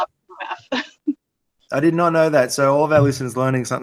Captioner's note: laughs